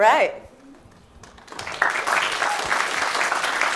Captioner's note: applause